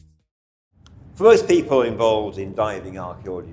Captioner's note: breeze humming softly